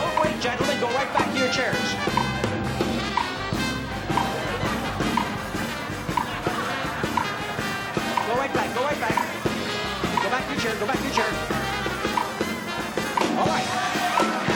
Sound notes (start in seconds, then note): 4.4 laughter